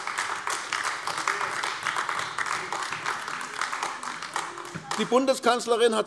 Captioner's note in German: Beifall AfD